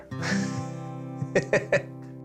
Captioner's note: laughs